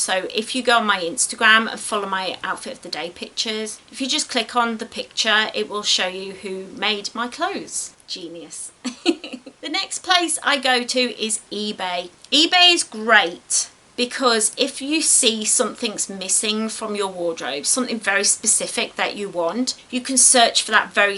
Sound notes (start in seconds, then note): 8.8 giggles